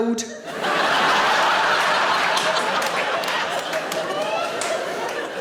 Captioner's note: audience laughing